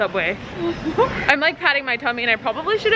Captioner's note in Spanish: riendo